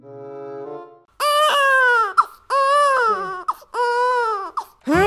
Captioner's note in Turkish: Ağlama sesi